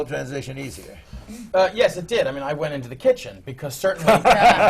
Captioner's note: laughter